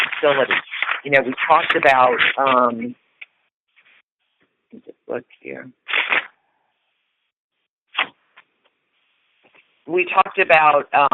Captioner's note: sound of paper rustling